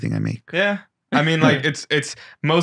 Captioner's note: chuckles